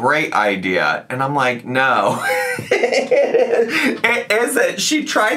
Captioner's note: laughs